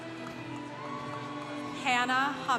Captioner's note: congregation cheering